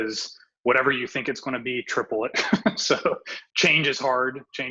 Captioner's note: laughs